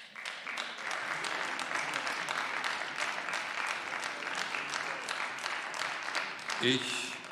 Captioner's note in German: Beifall